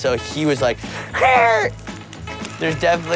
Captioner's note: screeches